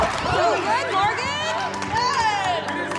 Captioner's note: onlookers gasping